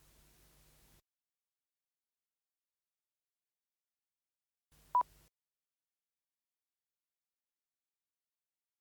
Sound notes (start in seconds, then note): 4.6 beeps